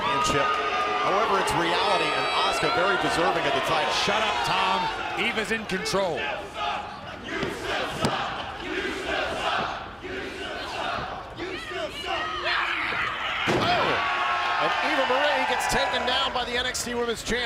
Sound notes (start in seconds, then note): 9.3 fans chanting